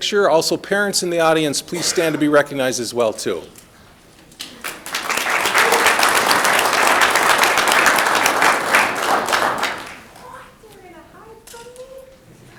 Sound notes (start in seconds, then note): 4.3 audience clapping